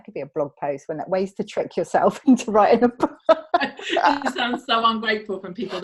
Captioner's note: laughs